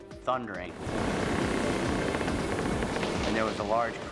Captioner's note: pilings creaking